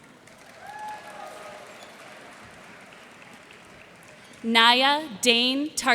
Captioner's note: cheers and applause